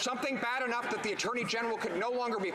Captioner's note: some Laughter